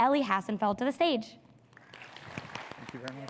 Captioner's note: audience clapping